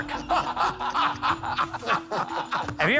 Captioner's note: laughter